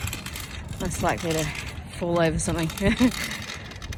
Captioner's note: scoffs